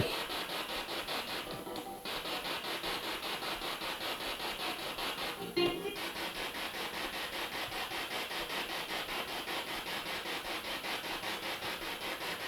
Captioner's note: sound of the Spirit Box in the background